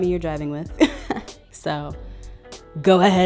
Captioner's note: laughing